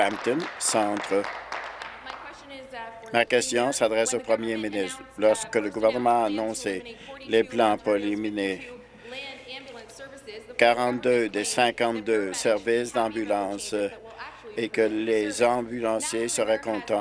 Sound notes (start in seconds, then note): 1.7 applause